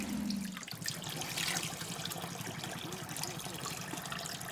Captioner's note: water splashing